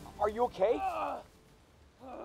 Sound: grunts

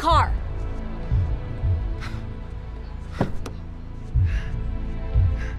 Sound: scoffs

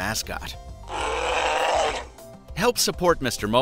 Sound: growl

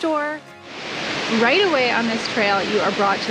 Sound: water falling

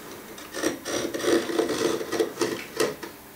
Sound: scraping

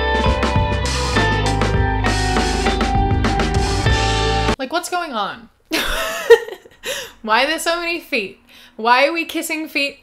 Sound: laughs

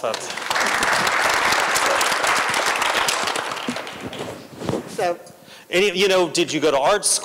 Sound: applause

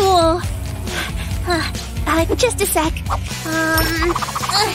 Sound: puffing

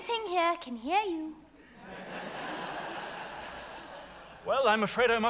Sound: audience laughs

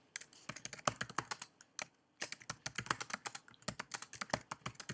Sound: typing

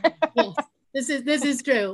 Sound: laughing

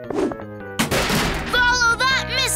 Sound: crash

